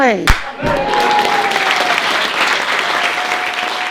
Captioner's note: audience claps and cheers; claps to finish